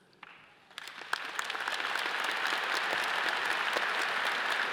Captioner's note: all applauding